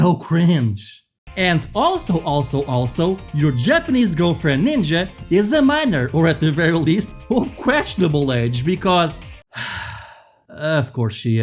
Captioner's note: sighs